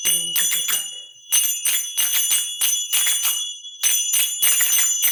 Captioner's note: zappers clacking